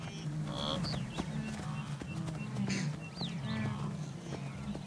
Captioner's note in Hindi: जानवरों की आवाज़ें